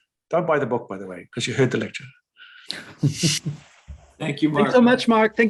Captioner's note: chuckles